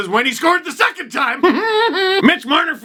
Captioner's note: more nervous laughter